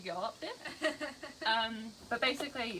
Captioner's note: laughing